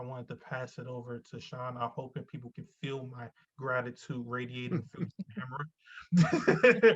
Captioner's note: laughs